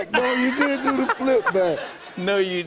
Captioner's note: laughter